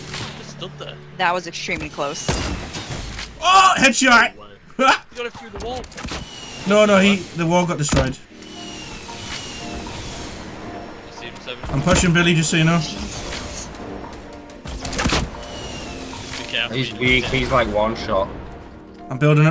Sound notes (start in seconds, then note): 9.3 upbeat piano music; 11.8 RPG firing